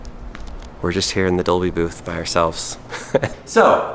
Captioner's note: laughs